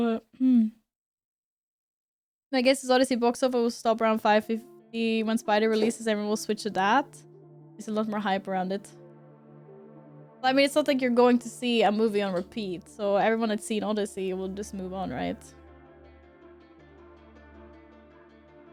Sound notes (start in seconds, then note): 9.1 cough